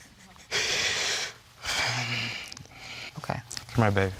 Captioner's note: breathing deeply